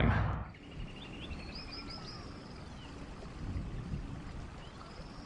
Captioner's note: whooshing air; birds chirping